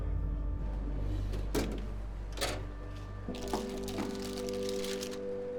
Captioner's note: drawer rattling